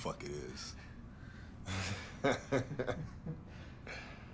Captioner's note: laughs